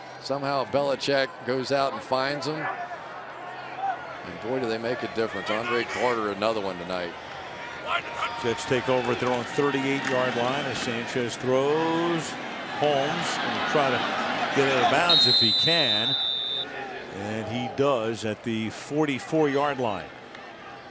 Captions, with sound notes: But somehow, Belichick goes out and finds them. And boy, do they make a difference. Andre Carter, another one tonight. Jets take over at their own 38-yard line as Sanchez throws. Holmes-- and try to get out of bounds if he can. [whistle] And he does at the 44-yard line.